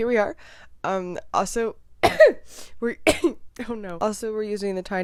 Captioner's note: coughs